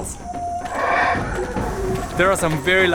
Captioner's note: howler monkey sounds